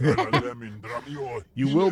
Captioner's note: laughs